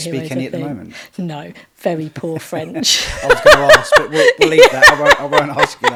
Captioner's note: laughing